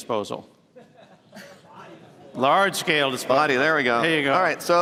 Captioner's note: laughter